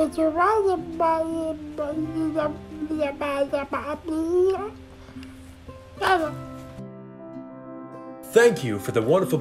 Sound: baby talk

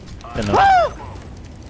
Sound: scream

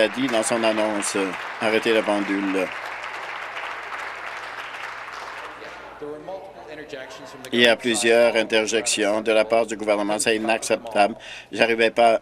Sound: applause

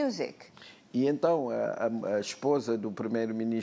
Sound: speaking portuguese

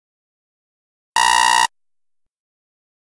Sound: sound of alarm

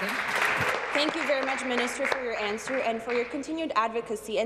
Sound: applause

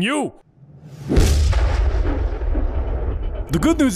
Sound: distant muffled impact

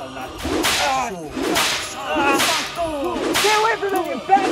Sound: yelling in pain

